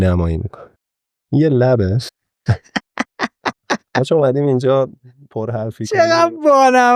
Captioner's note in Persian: خنده